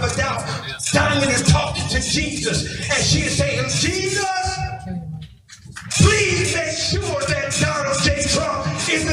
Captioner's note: laugh